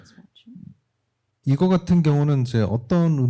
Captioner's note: speaking korean